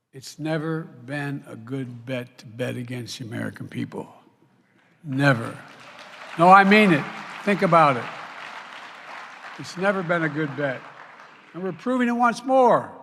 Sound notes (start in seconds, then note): 5.0 applause